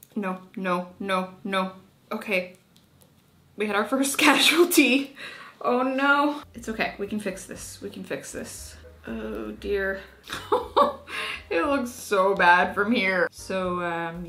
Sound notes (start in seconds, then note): 10.2 laughing